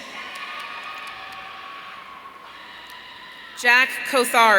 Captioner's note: audience cheering